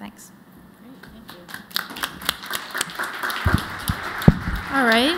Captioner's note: applause